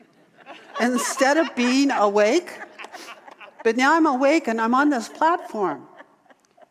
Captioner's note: audience laughter